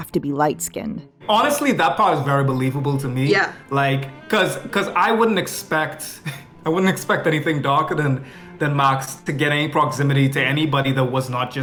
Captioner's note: foreign